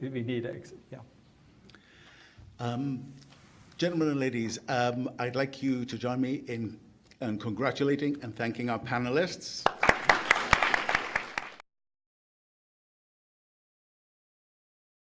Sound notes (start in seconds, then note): 9.6 attendees applauding